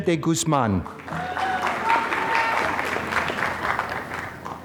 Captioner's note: applause